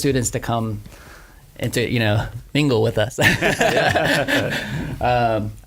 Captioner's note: laughs